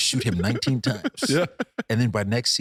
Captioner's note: laughing